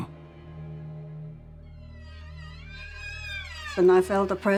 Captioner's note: creaking